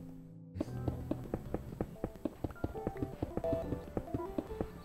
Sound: pickaxe tapping

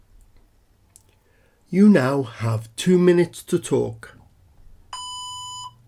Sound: beep

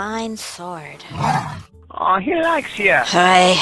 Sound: bear growls

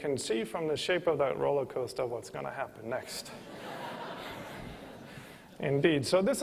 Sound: laughter

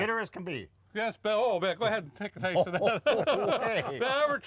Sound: laughs

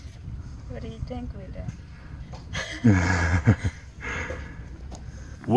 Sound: laughs

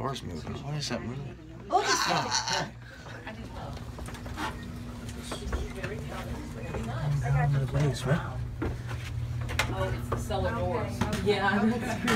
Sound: chatter

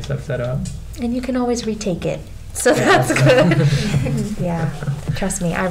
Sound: laughing

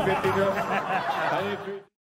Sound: crowd laughs

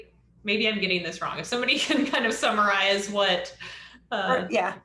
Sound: laughter

